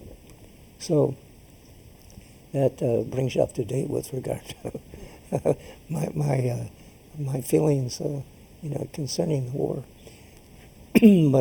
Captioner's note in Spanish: risas